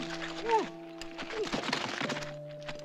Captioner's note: grunting